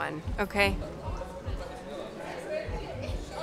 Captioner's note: indistinct chatter